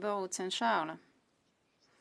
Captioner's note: speaking French